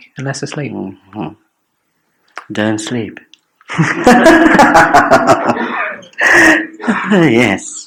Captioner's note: laughs